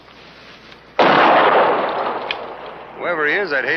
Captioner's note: gun firing